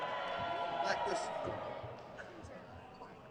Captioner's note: crowd cheers